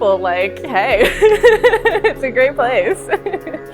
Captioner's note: laughs